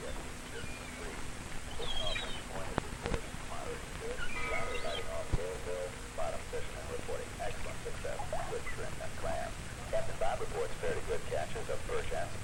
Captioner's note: radio chattering softly